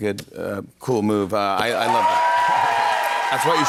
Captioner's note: cheers and applause